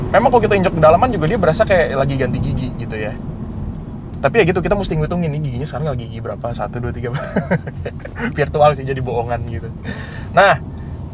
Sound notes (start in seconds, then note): 7.1 laughing